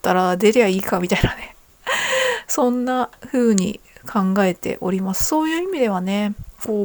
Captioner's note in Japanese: 笑い